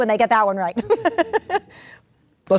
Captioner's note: laughter